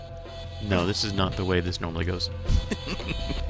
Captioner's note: laughs